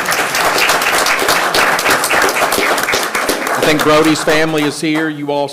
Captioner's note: everyone applauding